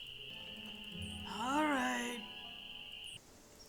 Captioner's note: groaning